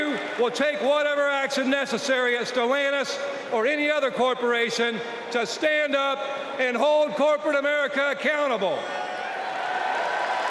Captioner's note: applause